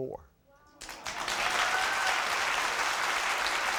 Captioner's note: applauding